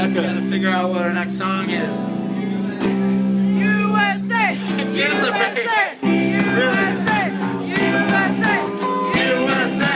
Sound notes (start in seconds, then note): 3.2 instrumental music; 4.4 people chanting 'USA'